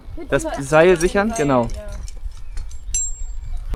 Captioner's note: speaking German